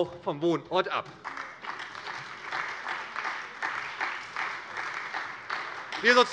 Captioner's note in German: Beifall bei der SPD